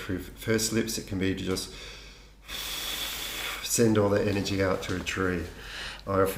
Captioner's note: breathing out